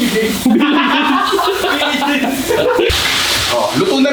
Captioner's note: laughter